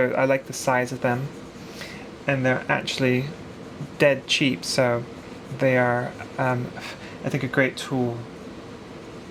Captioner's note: English accent